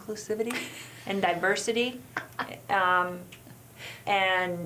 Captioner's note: chuckles